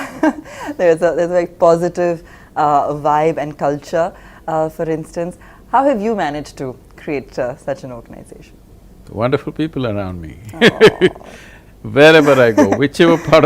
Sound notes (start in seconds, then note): 0.9 laughs; 10.4 laughs; 10.4 interviewer laughs